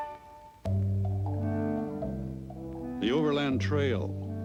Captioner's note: orchestral music fades; horse hooves clacking